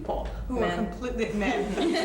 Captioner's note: laughter